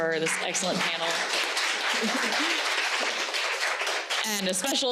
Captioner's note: audience applauding